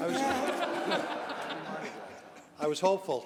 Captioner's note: laughter